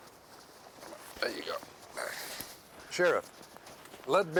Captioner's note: grunts